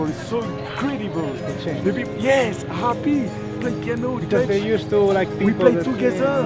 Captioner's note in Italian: Inglese